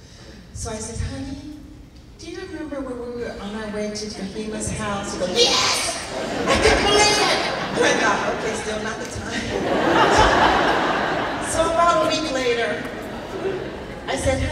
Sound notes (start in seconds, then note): 9.6 laughing